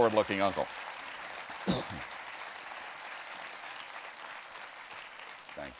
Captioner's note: applause